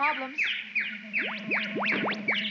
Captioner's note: birds chirping